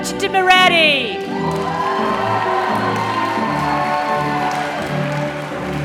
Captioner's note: applause